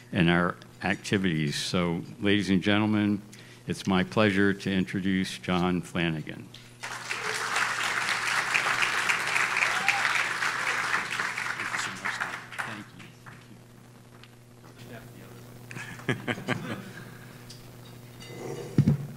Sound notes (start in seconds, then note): 6.8 audience applauds; 15.7 laughs